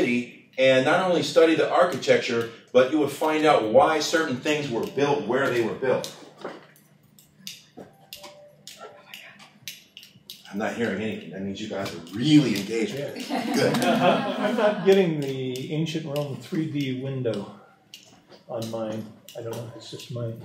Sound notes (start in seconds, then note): 15.2 laughter